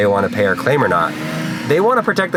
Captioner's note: car engine revving